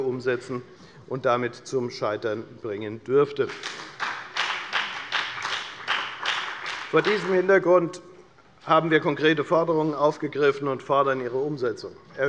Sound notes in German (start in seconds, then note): 3.4 Beifall bei der FDP